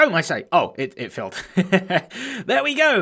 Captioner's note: chuckles